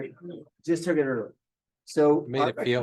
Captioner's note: indistinct chatter